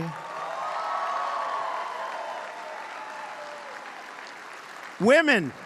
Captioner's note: applause